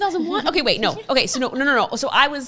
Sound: laughs softly

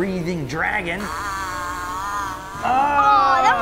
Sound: toy roaring

